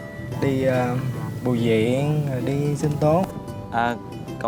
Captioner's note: huu